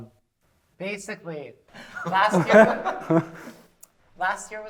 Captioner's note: laughter